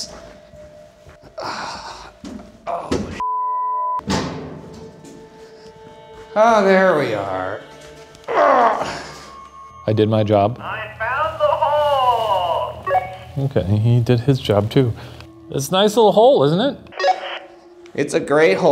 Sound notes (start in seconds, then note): 3.2 beep; 8.3 groans